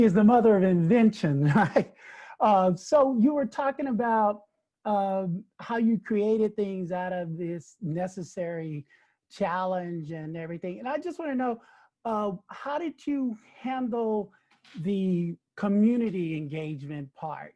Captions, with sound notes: (chuckles) So, you were talking about how you created things out of this necessary challenge and everything, and I just wanna know, how did you handle the community engagement part